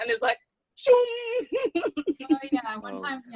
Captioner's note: making sliding noise